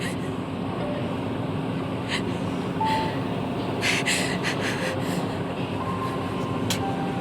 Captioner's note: crying